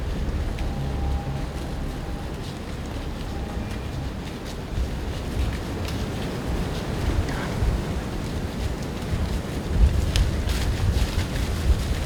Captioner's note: sound of leaves crunching